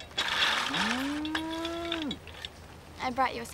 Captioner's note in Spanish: vaca mugido